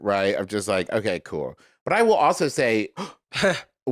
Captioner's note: gasps